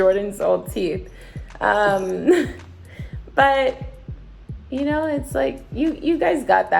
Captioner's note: laughs